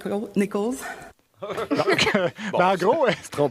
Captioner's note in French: rires